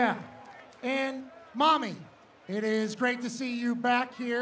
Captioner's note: cheering